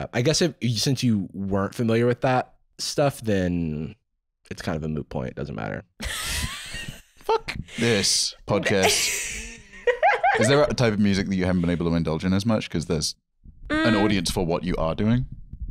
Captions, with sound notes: I guess since you weren't familiar with that stuff, then... it's kind of a moot point. Doesn't matter. - (wheezing) - Fuck this podcast. Is there a type of music that you haven't been able to indulge in as much, 'cause there's an audience for what you are doing?